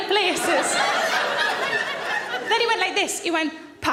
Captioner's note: audience laughing